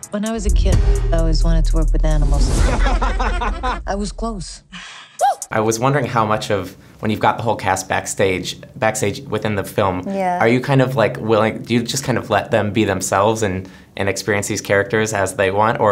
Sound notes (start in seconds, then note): 2.6 woman laughs; 2.6 man laughing